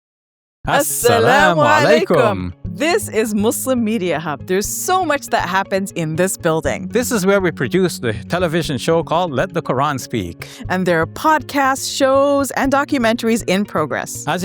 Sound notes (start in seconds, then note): 0.6 pair speaks a foreign language